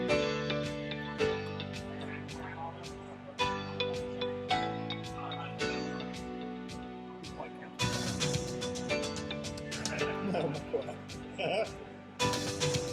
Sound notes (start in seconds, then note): 0.0 # uplifting music #; 0.0 background chatter